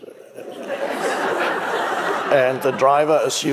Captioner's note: audience laughing